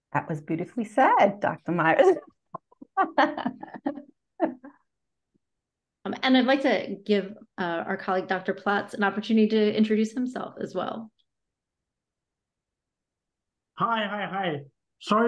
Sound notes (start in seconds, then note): 2.9 both chuckles